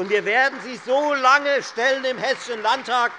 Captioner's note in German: Beifall Freie Demokraten und vereinzelt SPD